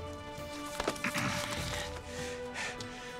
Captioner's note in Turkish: Boğazını temizliyor